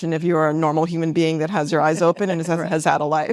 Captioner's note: laughs